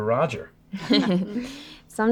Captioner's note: group laughing